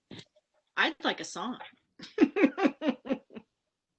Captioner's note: laughs